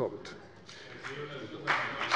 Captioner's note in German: Beifall bei der CDU und dem BÜNDNIS 90/DIE GRÜNEN